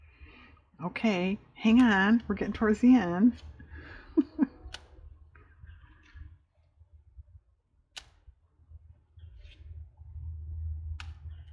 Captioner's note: laughs